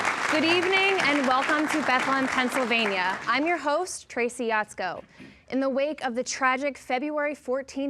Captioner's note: applause